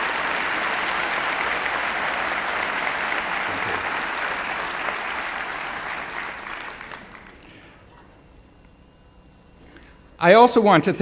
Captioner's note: applause